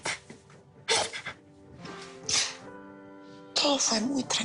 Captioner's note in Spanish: Sollozos